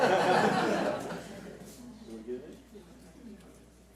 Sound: audience laughs

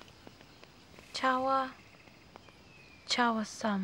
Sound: non-english speech

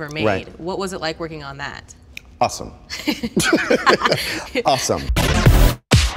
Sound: laughs

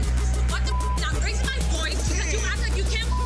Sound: beep; beep

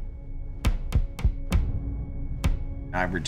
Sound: dramatic music; hammer thumping

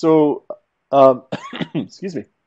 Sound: cough

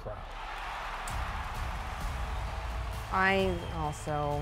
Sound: crowd cheers

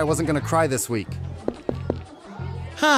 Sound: footsteps

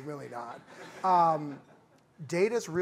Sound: laughter

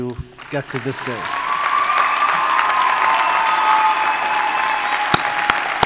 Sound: audience cheers and applauds

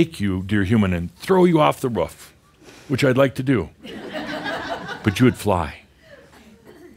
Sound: more laughter

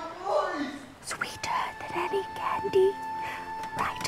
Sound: whispering

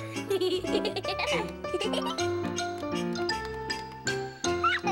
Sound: laughs

